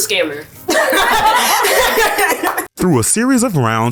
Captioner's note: laughing